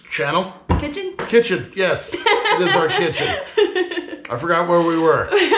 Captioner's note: laughing